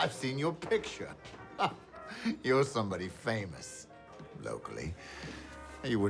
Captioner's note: chuckles